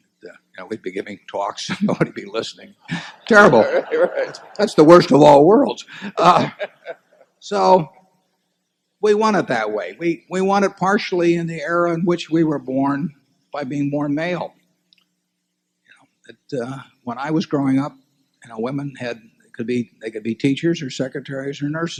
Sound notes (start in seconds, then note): 3.0 laughter